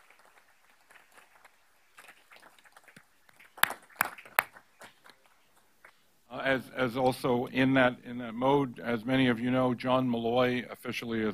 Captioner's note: applause